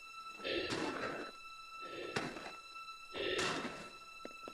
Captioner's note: Chemock breathes heavily